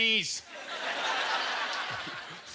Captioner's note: audience laughter